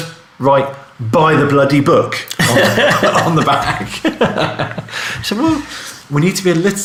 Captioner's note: laughing